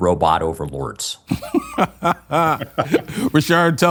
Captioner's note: laughter